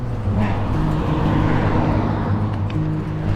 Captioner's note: car